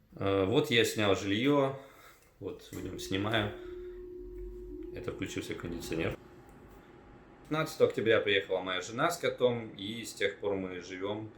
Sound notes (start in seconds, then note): 6.0 AC noise